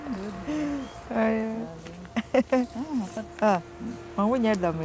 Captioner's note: speaks foreign language